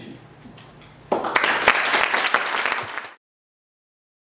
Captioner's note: applause